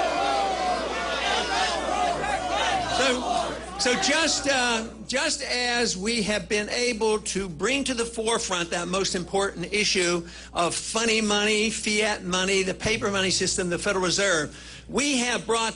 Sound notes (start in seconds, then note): 1.5 booing